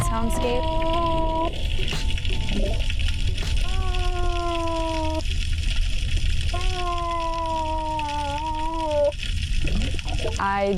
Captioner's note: monk seal vocalizing